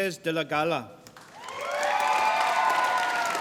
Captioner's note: applause